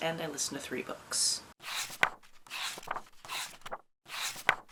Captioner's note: pages turning